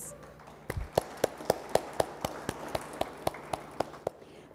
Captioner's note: audience applauds